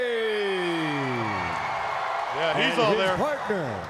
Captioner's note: crowd cheering